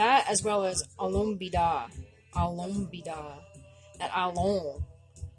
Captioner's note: speaking Abenaki